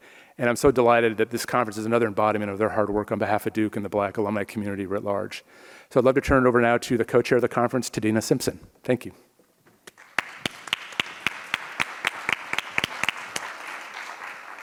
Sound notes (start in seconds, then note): 9.9 audience applauds